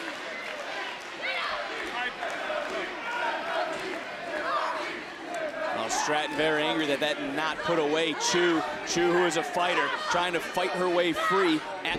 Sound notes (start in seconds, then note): 2.8 crowd cheering